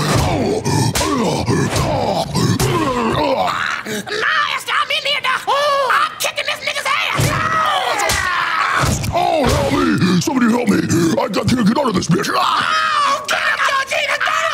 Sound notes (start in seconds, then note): 0.0 Satan grunting; 7.9 Satan grunting and groaning; 12.5 Georgina screaming